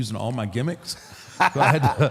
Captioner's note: AJ laughs